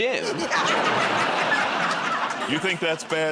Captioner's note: laughter